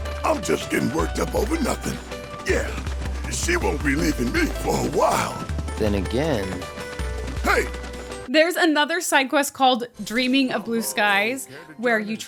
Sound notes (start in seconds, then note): none